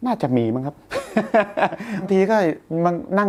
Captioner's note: laughs